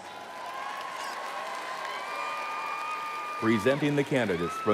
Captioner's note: audience cheering